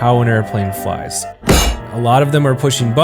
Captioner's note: clunk